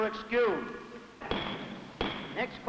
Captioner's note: gavel banging